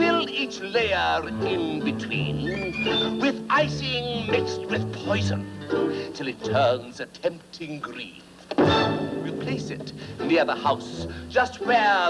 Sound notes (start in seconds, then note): none